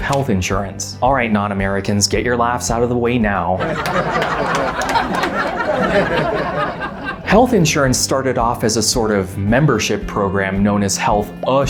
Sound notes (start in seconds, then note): 6.2 laughs in Foreigner